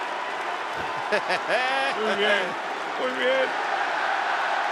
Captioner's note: laugh